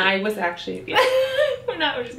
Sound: laughs

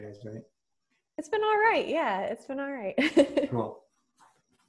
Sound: laughs

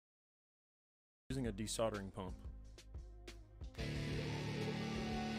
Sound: Audio from YouTube video playing

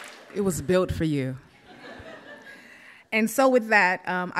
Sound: audience laughs

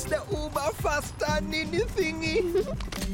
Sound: Sema giggles

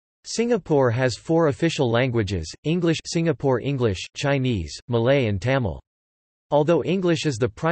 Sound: singapore English

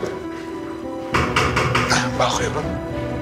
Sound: knock on door

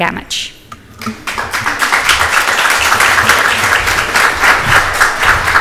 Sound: audience applauds

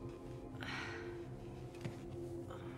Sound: sighs

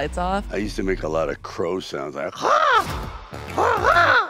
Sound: crows

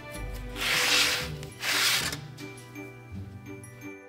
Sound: gently scrapes

